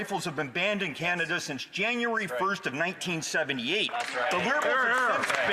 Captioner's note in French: voix de l'interprète